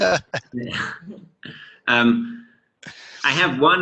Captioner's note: laughing